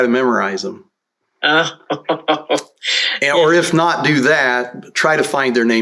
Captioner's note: laughter